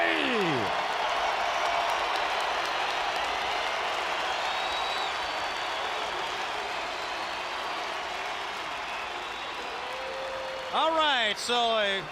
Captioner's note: crowd cheering